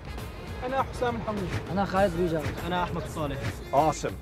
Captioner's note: speaking in Arabic